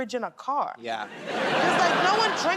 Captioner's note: laughter